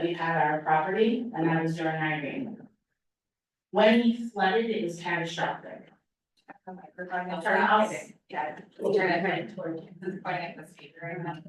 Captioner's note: chatter